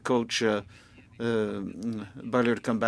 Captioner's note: speaking French